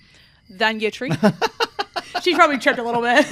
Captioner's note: laughs